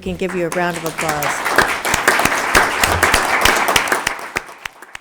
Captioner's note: audience applauding